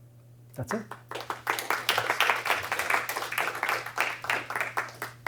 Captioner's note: applause